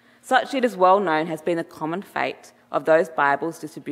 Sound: none

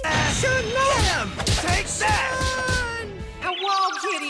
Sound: punching sound effects

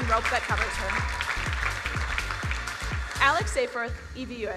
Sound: crowd applauding

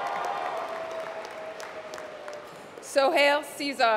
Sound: applause

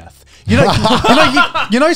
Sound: laughing

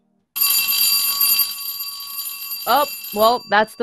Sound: bell rings

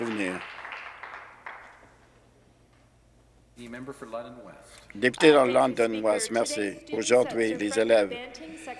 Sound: some Applause

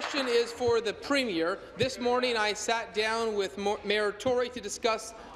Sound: applause

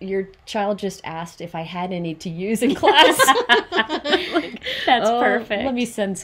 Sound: everybody laughs

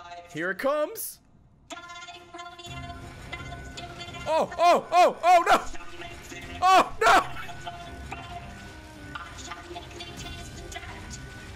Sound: laughs

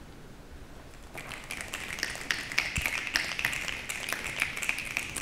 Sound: applause

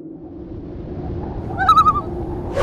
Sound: loon call

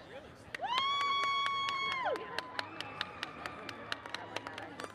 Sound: audience cheers

